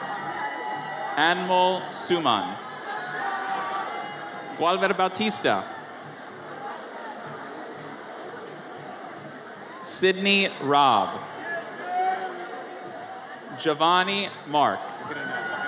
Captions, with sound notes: (audience cheers) Anmol Suman. Wilber Batista. (audience chatters) Sydney Robb. Giovannie Mark.